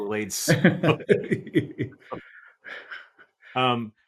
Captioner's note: laughing